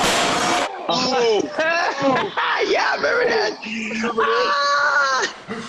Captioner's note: laughs